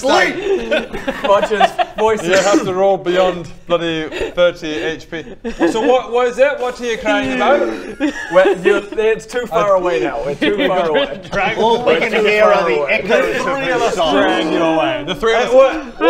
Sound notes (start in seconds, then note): 8.3 laughing